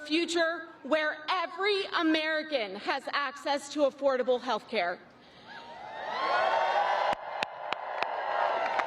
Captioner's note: applause